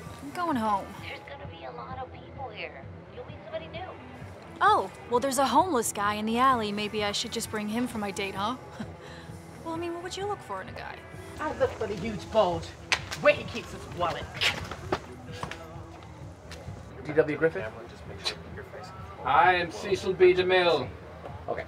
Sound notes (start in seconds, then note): 12.9 whip cracks; 14.5 hisses